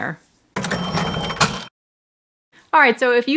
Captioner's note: cash register rings